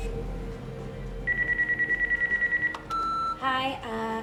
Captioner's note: phone ringing